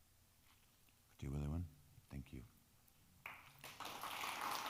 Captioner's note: speaking in foreign language; crowd clapping